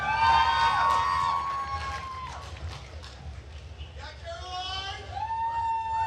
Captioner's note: attendees cheering and applauding